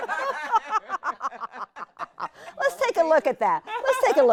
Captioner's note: laughing